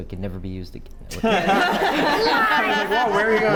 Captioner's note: laugh